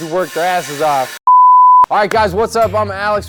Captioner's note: beep